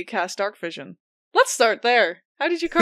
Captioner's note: laughs